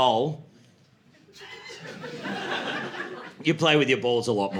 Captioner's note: laughter